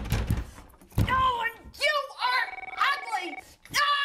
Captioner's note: mother yells